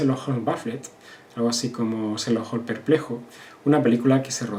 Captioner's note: Spanish